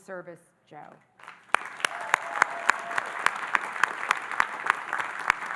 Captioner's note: audience applauding